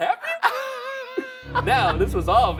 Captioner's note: wheezing